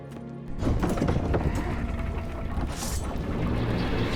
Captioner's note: gate mechanism rumbling